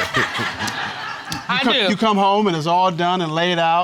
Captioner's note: all laughing